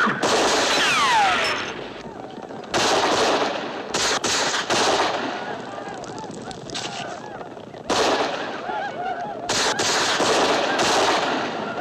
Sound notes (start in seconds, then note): 2.0 whooping